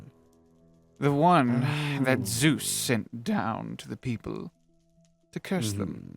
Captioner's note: sigh